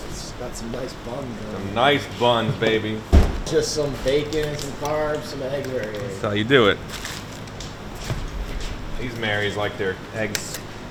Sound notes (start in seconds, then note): 3.0 door thudding; 6.7 plastic rustling